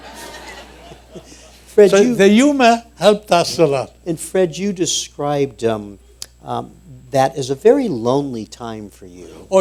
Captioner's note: laughter